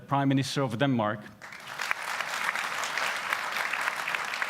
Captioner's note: applause